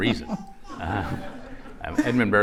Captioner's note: laughter